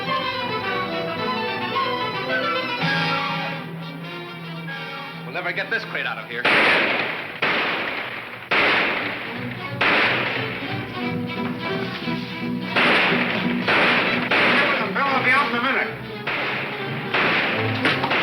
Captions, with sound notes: - We'll never get this crate out of here. (guns roaring) Deal with them, Bill, I'll be out in a minute.